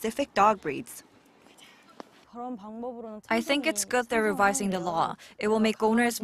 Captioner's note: Korean